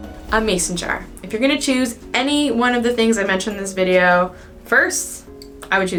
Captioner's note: missile whistles